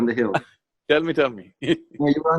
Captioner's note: laughs